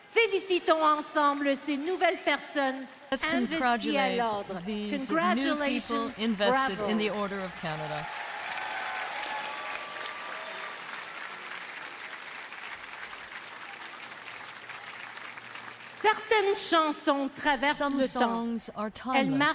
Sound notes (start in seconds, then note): 6.3 speaking French; 12.5 applause